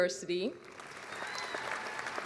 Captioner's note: applause